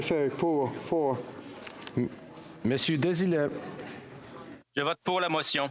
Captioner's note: speaking FRENCH